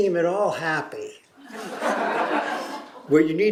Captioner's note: laughter